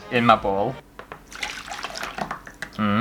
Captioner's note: soup Splashes